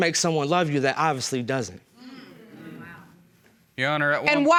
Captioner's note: audience murmuring